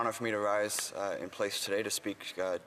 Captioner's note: speaking French